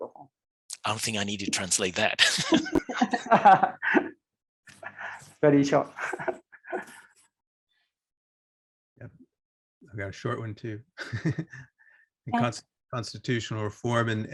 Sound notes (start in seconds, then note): 2.2 laughter; 5.9 laughs; 11.2 laughs